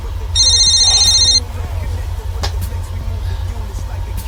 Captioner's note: rap music on radio; phone ringing